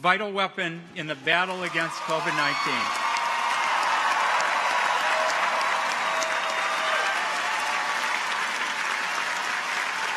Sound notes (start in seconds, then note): 3.2 audience applauds; 3.2 audience cheers